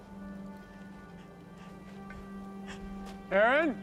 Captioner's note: gasping